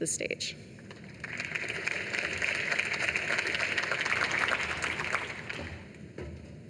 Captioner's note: applause